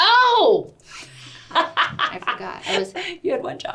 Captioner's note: laughs